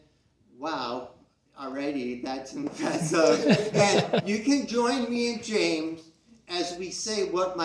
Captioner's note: chuckles from the CROWD